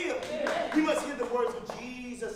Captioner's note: congregation applauds